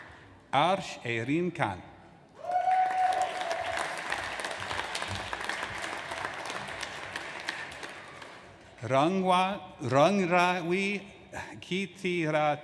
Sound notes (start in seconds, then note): 2.4 audience applauds